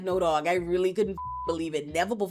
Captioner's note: beep